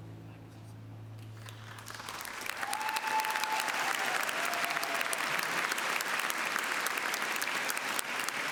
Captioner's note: applause